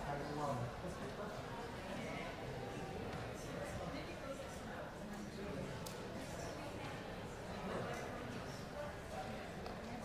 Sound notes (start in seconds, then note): 1.3 congregation chattering